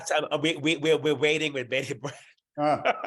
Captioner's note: laughs